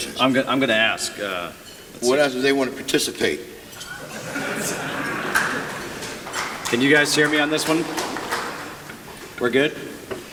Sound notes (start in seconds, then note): 3.8 laughter